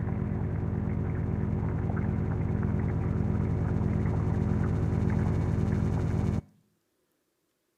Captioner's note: liquid burbling; graphic buzzing